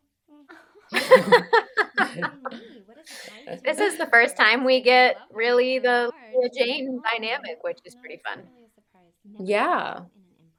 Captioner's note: laughter